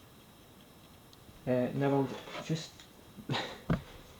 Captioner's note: laughs